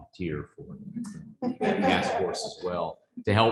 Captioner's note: chuckling